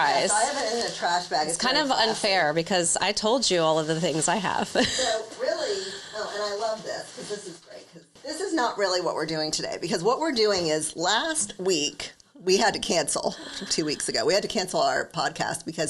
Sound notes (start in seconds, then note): 4.6 chuckles